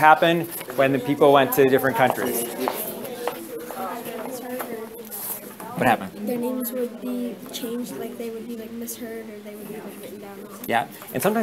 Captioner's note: students talking